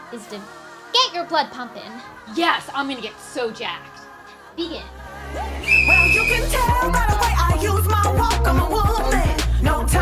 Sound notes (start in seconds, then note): 5.6 blows whistle